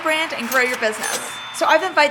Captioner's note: cash register dinging